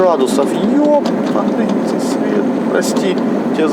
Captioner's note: swearing